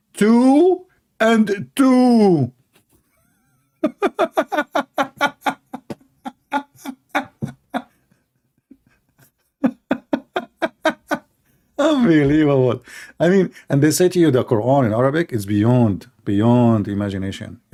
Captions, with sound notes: Two and two. [Laughing] Unbelievable. I mean... And they say to you the Quran in Arabic is beyond imagination.